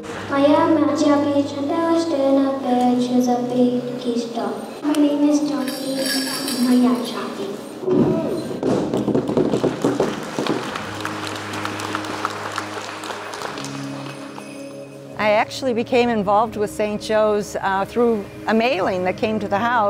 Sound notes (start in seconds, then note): 10.8 applause and drums